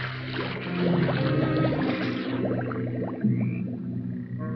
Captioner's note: water splashes; water gurgles